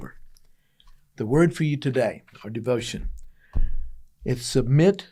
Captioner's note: book thuds on table